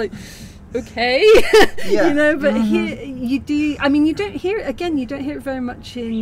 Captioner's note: gasp; laughing